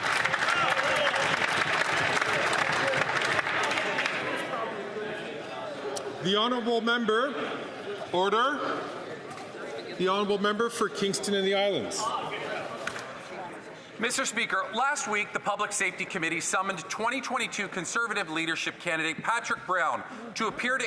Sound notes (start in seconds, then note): 1.7 some Applause